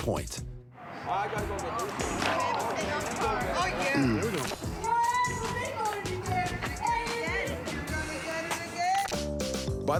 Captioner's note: indistinct chatter